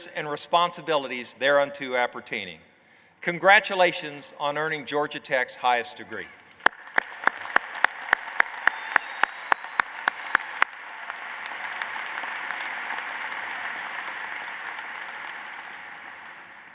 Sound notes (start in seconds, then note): 7.3 applause